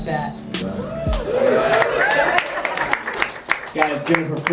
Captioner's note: applause